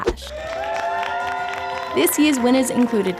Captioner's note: whooping and applause